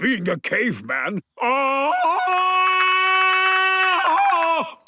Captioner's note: Tarzan call